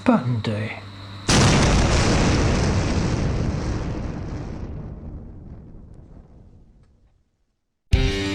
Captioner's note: loud explosion